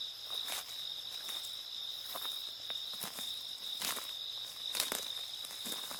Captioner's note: leaves rustling continues